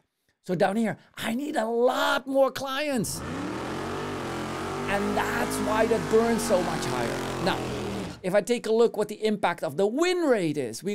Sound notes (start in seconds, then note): 3.1 engine revving